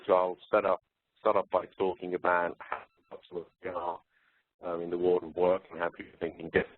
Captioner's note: distorted audio